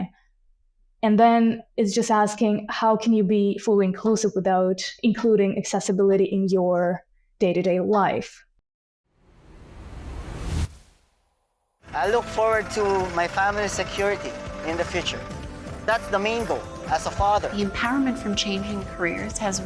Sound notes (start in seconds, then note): 9.4 air whooshing